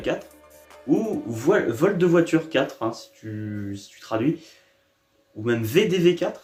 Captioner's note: in french